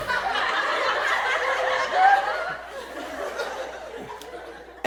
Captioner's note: audience laughs